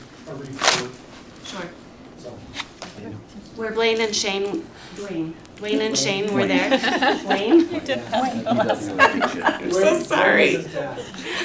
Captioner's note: laughter